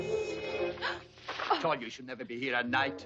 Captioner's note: Mary gasps